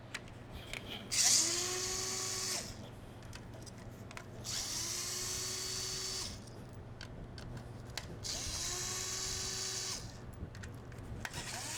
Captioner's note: drilling